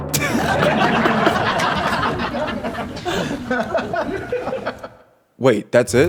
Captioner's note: laughter